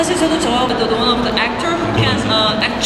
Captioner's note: speaking Korean